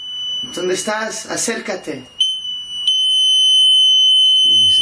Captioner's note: speaking in foreign language; beeping